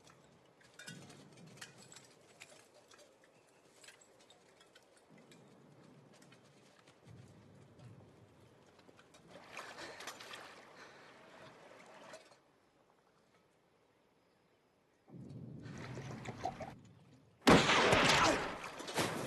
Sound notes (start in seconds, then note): 17.4 gunshot